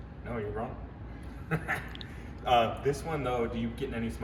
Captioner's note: laughs